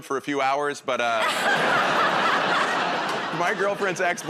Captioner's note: laughter